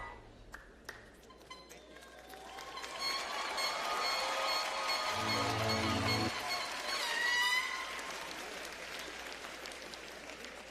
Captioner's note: applause